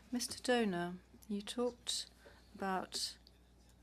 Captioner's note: speaking French